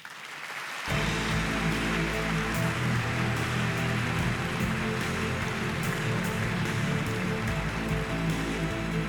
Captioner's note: applause